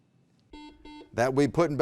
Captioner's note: beeping